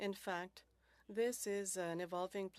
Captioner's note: speaking French